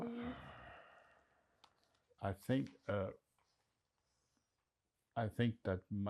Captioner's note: sighing